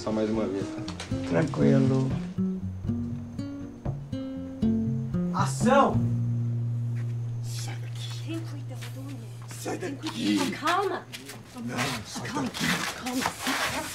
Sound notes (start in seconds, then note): 0.1 both speaking in foreign language; 5.8 both speaking foreign language